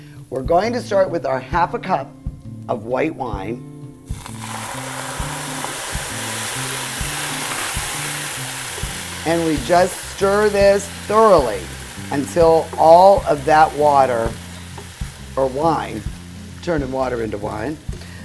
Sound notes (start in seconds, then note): 4.1 sizzling, spitting